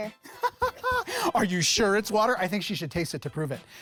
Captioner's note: laughs